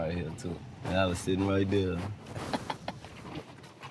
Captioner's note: chuckles